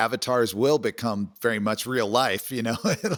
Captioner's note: laughs